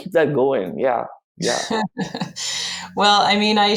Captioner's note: chuckles